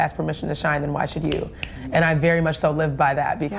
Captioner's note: snaps